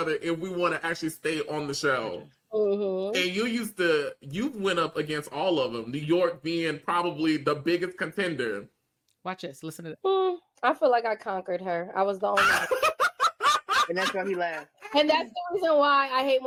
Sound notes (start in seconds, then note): 12.4 laughing